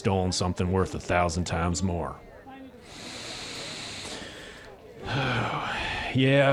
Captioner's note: takes a deep breath